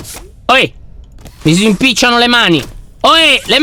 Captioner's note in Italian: suono meccanico del grab-pack